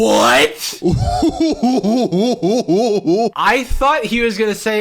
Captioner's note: laughing